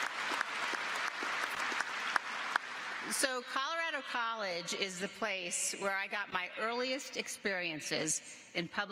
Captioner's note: applause